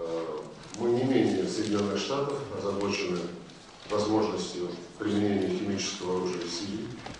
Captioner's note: in Russian